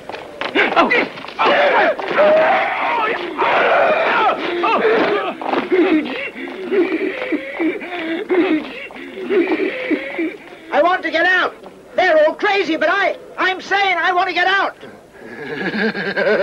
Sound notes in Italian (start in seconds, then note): 3.9 grida e versi soffocati; 15.3 risata